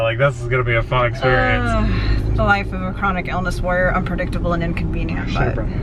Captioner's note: his police radio